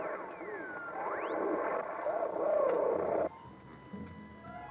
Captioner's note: radio whirring and buzzing